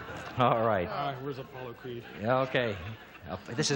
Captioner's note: audience laughs